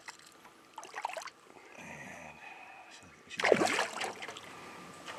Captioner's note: fish splashing